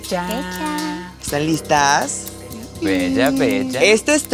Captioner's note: murmurs of agreement